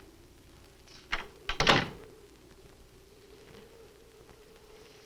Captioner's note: door closes